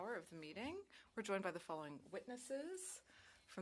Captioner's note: speaking French